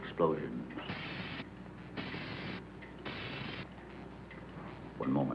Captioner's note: electricity crackling